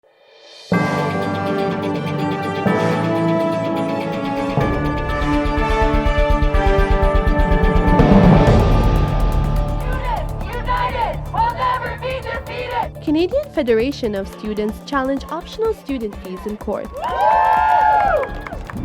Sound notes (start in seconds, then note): 9.8 chanting